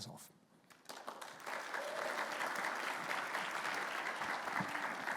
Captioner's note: audience clapping